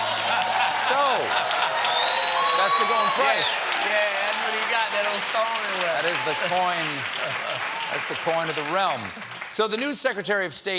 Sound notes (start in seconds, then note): 0.0 applause; 0.2 laughter